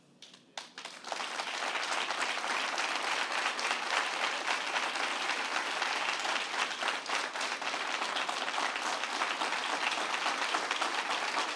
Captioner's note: applause